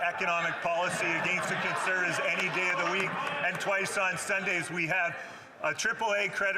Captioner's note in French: voix de l'interprète